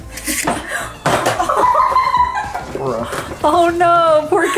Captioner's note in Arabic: الكل يضحك